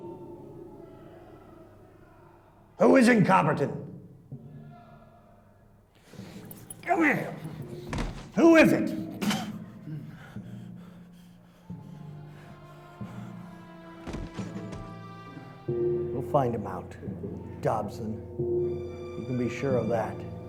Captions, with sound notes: - Who is in Copperton? Come here. Who is it? (Dobson spits) (solemn music) We'll find him out. Dobson. You can be sure of that.